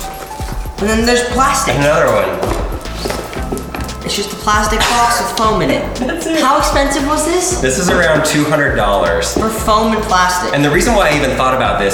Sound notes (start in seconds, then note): 2.6 case rattles; 5.7 laughs